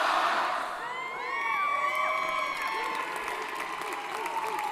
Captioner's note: applause & Cheering